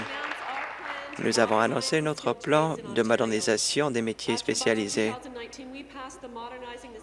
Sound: applause

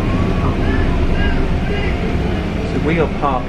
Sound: person shouting

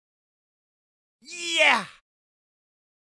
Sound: sound of man cheer

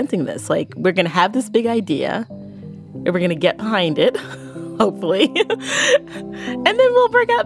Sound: laughs

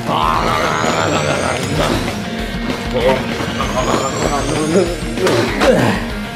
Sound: rock music; Luigi munching

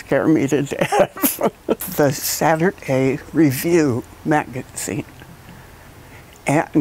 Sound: laugh

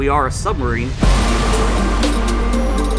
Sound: waves crashing, music

